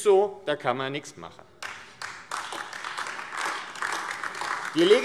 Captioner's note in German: Beifall AfD